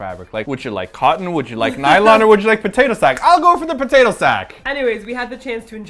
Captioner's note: snaps fingers